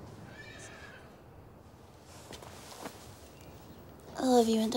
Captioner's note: horse whinnies